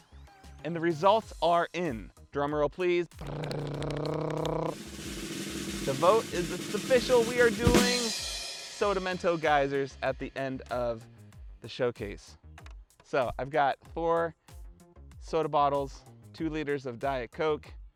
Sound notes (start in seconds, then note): 3.2 rolls tongue; 3.4 slaps legs; 4.4 drum roll